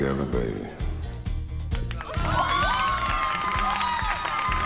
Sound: crowd Cheering

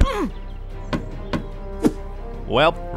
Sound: Roach grunts; footsteps tapping

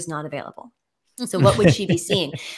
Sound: laughing

